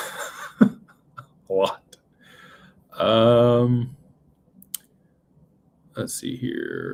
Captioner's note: laughter